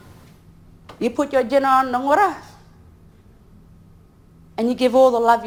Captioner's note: speaks in foreign language